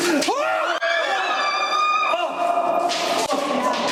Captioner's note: screaming